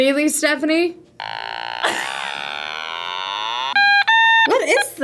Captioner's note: React laughs; otamatone beeps